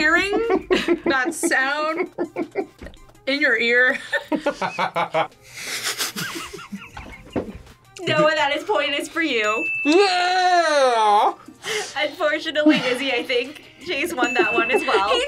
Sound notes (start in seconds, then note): 1.9 laughs; 5.6 both laugh